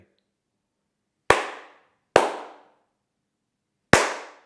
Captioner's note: clapping